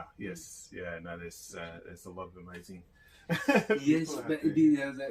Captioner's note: laughs